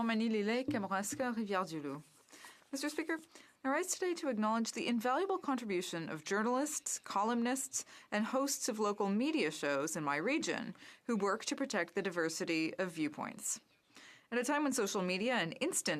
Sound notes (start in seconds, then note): 3.9 speaking French